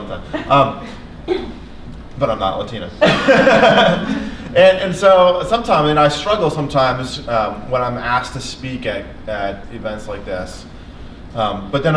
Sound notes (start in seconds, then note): 3.0 laughs